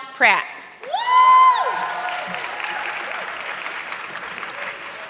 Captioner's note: audience clapping